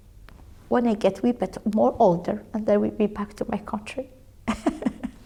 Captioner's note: laughs